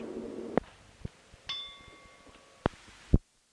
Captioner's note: bell Sound